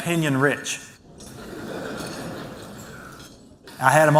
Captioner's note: laughter